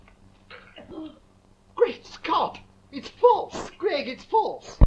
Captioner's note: gasps